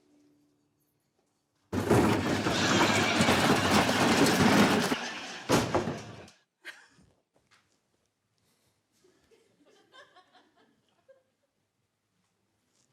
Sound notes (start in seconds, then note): 1.7 bin rattles